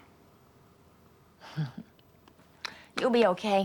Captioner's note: Rose chuckles